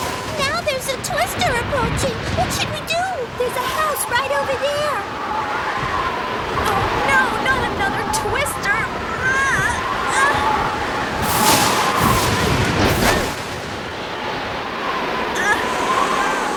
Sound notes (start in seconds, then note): 9.0 groaning; 11.4 lightning striking and wind howling; 13.1 windows closing; 16.3 exclaiming